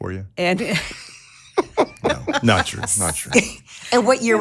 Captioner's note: laughing